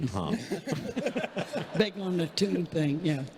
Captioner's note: everyone laughing